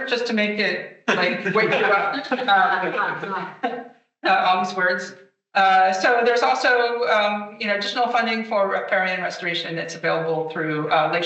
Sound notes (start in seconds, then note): 1.1 attendees chattering